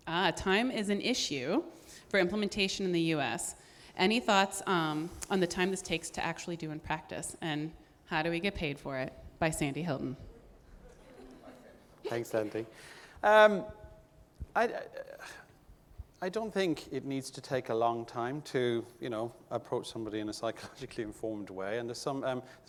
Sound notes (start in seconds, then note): 10.8 audience laughing